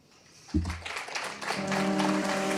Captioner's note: applause